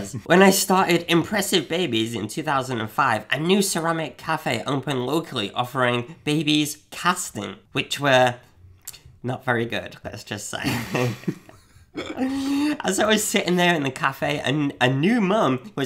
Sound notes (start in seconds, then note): 10.6 giggling